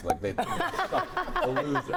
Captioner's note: all laughing